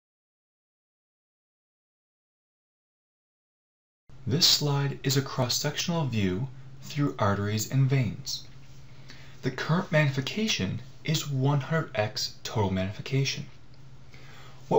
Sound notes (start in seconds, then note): 4.5 voiceover